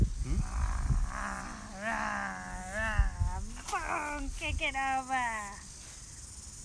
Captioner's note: playful growling